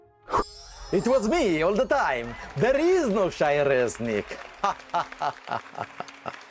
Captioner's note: laughing